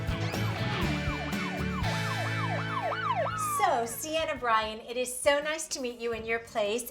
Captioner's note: alarm